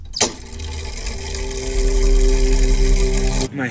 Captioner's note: mechanism whirring